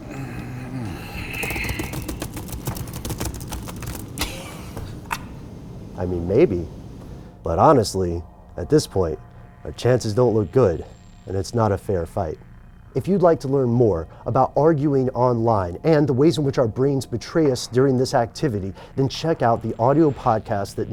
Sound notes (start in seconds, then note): 0.0 grunting; 1.4 clicking, typing; 4.1 chuckling